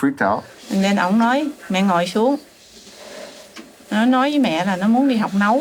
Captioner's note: speaking in a foreign language